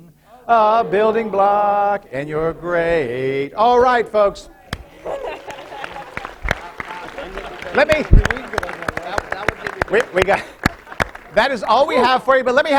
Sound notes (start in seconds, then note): 4.8 laughter; 11.4 applause